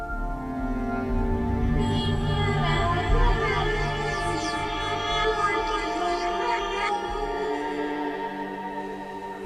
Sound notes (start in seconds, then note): 2.1 voice speaking distorted